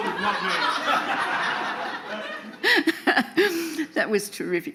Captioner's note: audience laughing